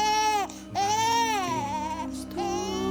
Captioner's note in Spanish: Llanto del bebé